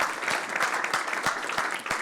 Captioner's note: applause